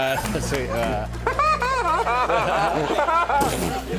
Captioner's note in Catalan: imita rialla